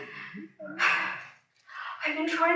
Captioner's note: deep breath